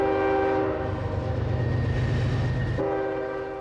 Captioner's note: horn blasts